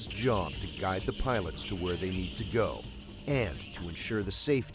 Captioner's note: voiceover